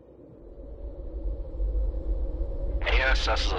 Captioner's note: wind blowing